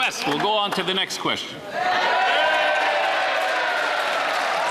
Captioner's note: some Applause